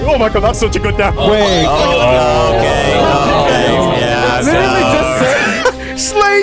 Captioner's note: agreement from crowd